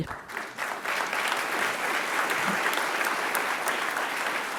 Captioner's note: audience clapping